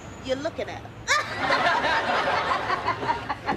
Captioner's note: laughing